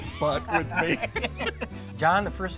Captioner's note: laughs